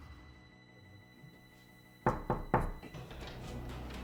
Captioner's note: knocking at the door